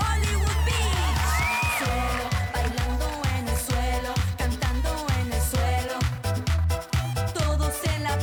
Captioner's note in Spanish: Gritos y exclamaciones